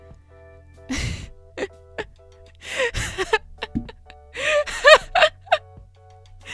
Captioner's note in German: Lachen